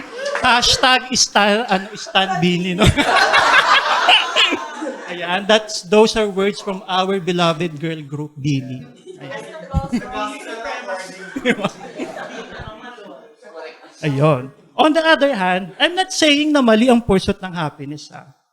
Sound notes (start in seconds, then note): 1.7 laughter